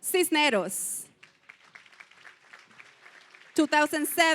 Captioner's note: applause